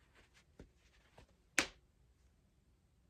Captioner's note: snap